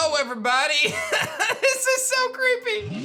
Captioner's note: laughs